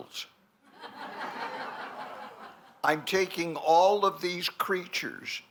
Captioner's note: laughter